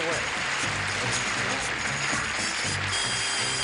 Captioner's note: audience clapping; theme music playing